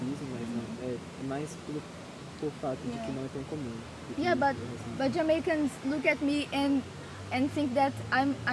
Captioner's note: speaking Portuguese